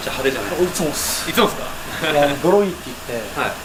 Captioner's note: laughs